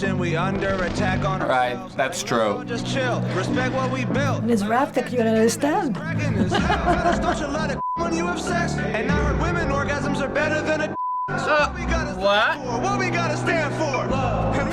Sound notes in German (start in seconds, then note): 5.5 kichert